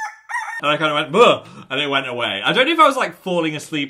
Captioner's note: bird crows; gasps